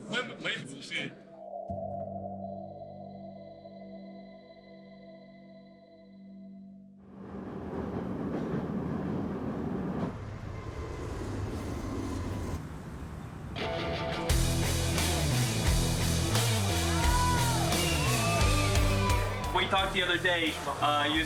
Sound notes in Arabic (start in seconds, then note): 13.8 موسيقى قوية; 15.0 هتافات الجمهور